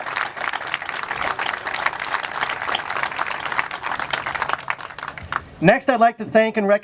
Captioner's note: clapping, laughter